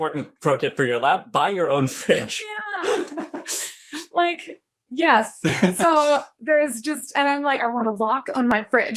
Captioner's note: laughs